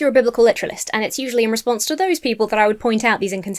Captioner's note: none